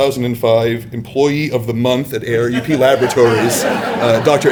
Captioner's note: laughter